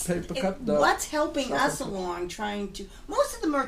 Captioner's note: voiceover